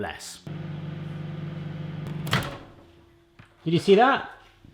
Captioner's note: microwave whirring then opening